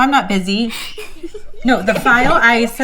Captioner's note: girl laughing